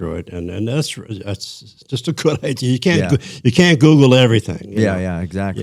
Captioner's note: laughter